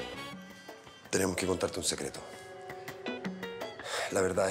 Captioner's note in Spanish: exhala